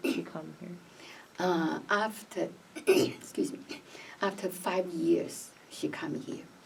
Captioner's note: clears throat